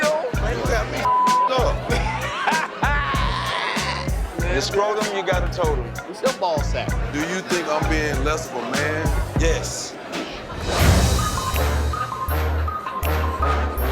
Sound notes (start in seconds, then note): 1.8 laughing; 10.4 dramatic music